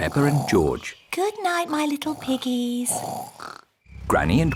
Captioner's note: both snoring